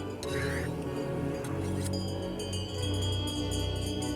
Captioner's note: chimes Ringing